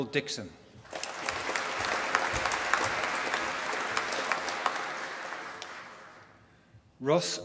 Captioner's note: applause